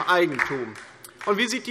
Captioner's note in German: Beifall DIE LINKE